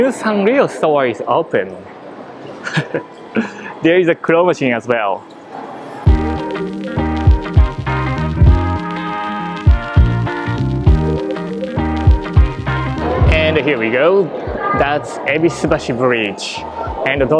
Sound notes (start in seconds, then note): 2.6 chuckles